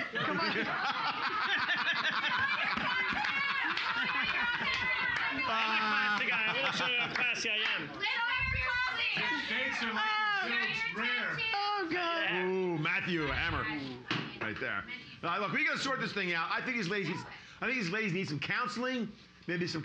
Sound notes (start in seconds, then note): 0.0 loudly laughing; 6.1 laughing; 7.9 audience shouting